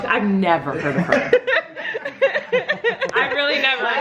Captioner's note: laughing